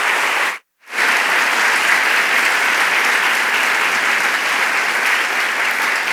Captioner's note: applause